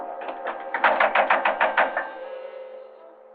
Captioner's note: knocking on door